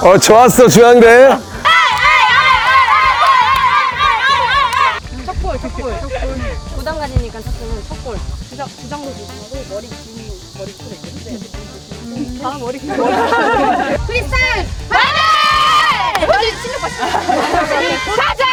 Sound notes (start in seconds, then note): 14.8 the long-haired ones are cheering